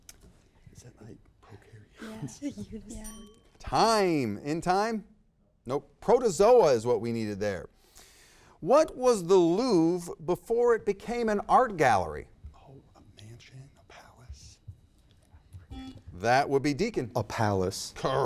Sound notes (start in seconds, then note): 2.9 bell dings; 15.7 buzzer beeps